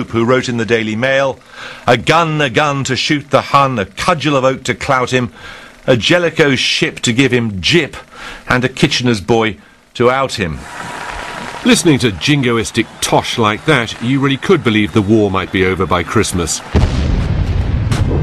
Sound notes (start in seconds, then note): 10.5 sounds of people cheering and clapping